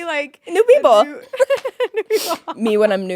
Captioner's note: both laughing